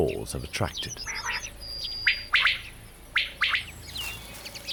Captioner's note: quail calls